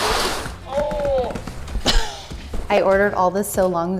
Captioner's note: grunting